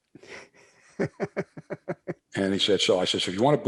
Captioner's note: laughs